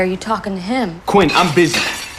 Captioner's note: shouts